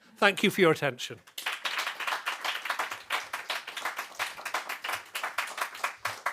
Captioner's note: applause